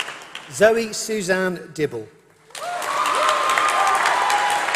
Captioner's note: applause